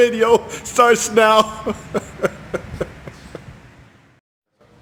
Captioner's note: laughs